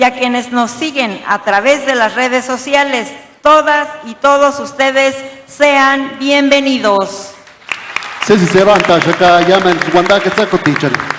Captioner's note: applause